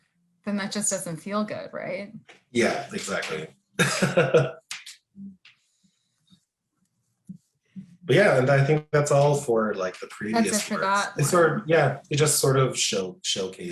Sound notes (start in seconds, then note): 3.8 laughs